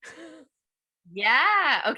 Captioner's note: laughs